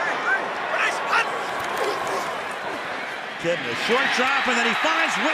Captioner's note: cheering